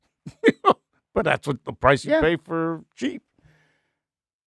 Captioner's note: laughing